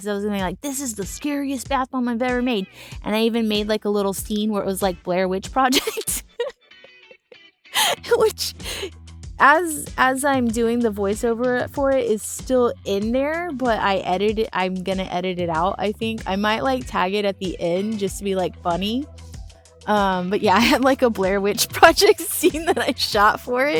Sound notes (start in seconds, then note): 5.7 laughter